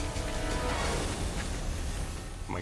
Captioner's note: dramatic music; fire roaring